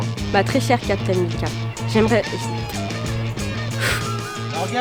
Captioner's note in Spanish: balbuceo